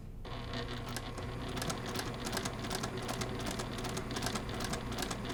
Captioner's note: sewing machine churning